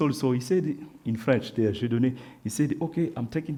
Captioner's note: speaks French